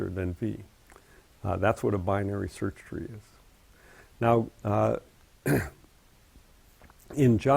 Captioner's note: cough